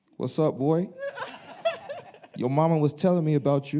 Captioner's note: laughing